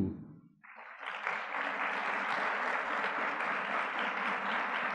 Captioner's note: audience clapping